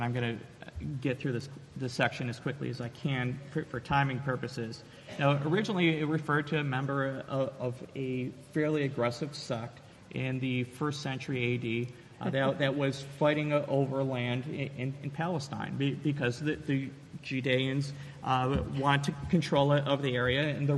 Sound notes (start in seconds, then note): 12.2 chuckles